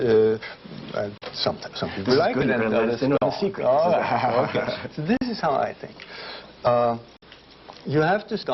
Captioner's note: laughter